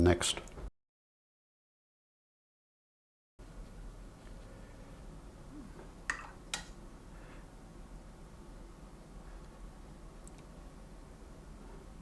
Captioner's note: silence